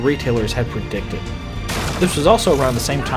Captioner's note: door getting kicked in